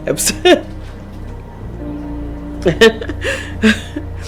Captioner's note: chuckles